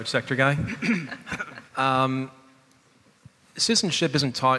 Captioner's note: chuckling